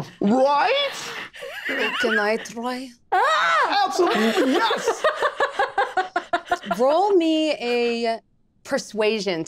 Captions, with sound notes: Right? - Can I try? - Absolutely, yes! (group laughing) - Roll me a persuasion